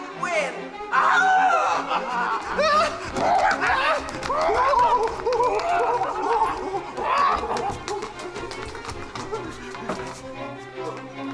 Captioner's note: Hannah yells and Robin shrieks